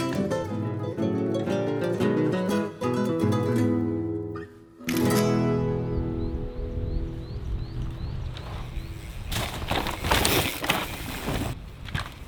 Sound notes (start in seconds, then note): 5.1 camera clicking; 8.2 bike thudding